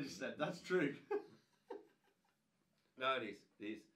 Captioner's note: laughing